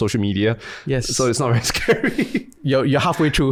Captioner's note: laughs